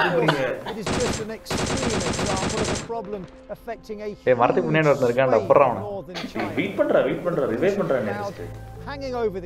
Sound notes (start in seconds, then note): 0.0 Nirmal coughs; 0.8 game sounds